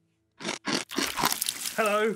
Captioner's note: chomping sound